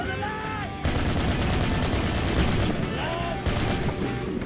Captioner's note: gunshots